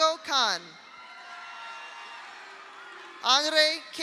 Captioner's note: audience cheers; audience applauds